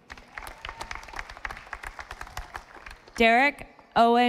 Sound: audience applauding

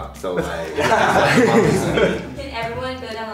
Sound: group laughs

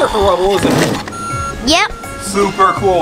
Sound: beeping

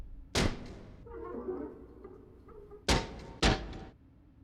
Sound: crash sound

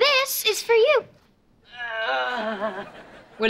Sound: Jasper groaning

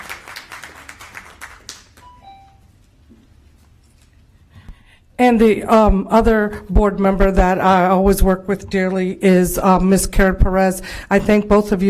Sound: applause

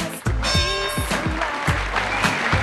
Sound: boxing bell sound

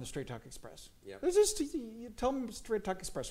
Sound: Mike stutters

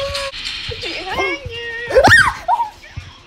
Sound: screams

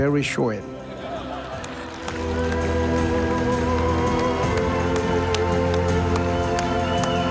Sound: audience laughing; audience applauding

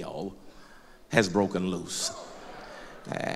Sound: loud crowd agreement

